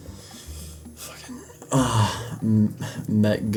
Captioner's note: moans